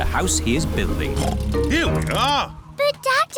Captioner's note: oinks